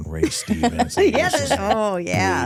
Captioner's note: hosts laughing